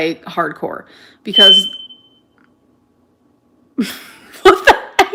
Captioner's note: smoke detector chirping; laughing